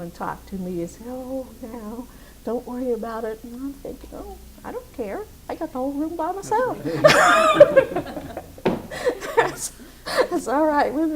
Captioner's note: laughs